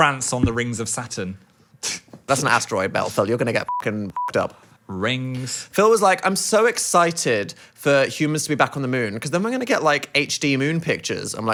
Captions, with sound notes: - Prance on the rings of Saturn. - That's an asteroid belt, Phil. You're gonna get (beep) up. - Rings. - Phil was like, "I'm so excited for humans to be back on the moon. 'Cause then we're gonna get like HD moon pictures."